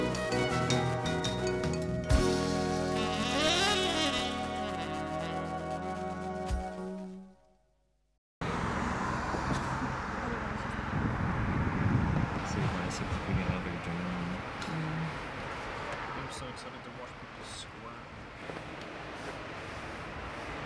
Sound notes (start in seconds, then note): 0.0 bossa nova music continues; 11.1 traffic hums